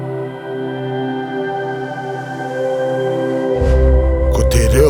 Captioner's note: various voices speaking te Reo